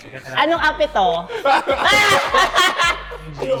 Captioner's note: burst into laughter